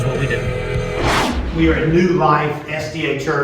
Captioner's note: intense whooshing